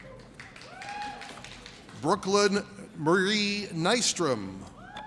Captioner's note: audience cheers